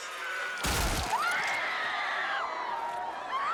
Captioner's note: screams